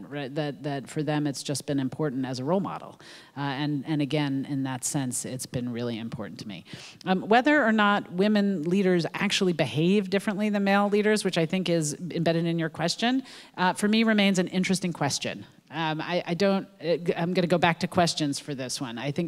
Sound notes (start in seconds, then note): none